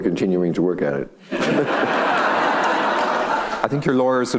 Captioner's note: audience laughing